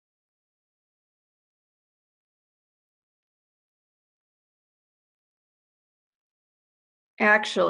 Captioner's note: silence